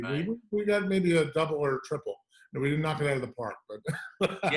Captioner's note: laughter